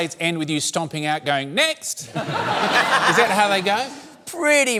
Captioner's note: laughter